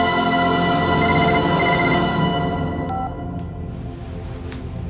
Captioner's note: phone ringing